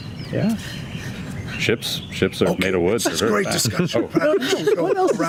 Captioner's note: stage whisper